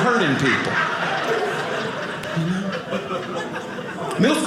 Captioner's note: audience laughing